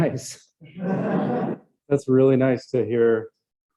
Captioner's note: laughter